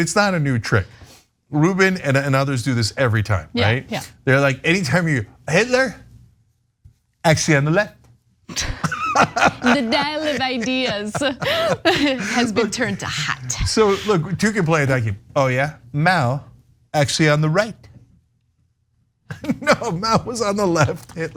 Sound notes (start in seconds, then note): 8.5 laugh